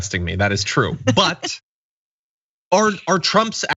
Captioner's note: laugh